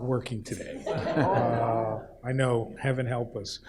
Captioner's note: audience laughs